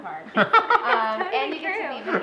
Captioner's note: laughter